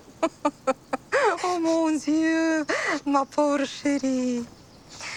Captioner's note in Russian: говорит по-французски